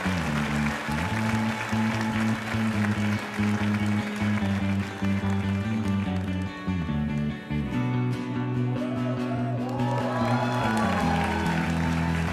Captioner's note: cheers and applause